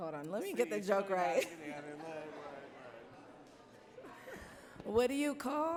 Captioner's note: laughs